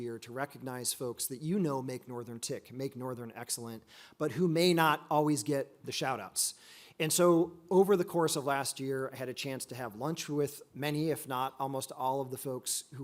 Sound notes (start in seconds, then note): none